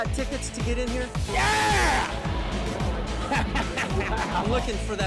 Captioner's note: laughs